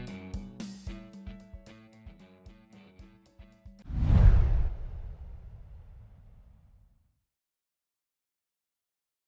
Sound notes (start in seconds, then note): 3.8 whooshing